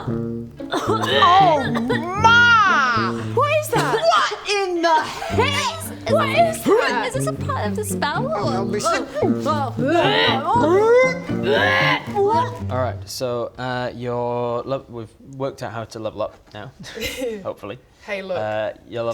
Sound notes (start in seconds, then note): 11.4 hrrrgh!